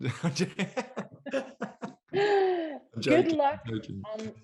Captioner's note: laughter